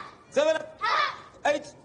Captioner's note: group grunts